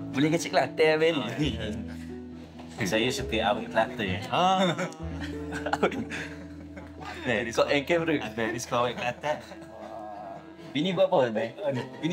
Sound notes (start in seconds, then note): 4.2 laugh